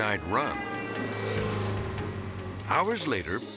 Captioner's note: gentle music; traffic honking